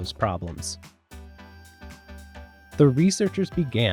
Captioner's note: machine noise